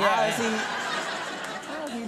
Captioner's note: audience laughing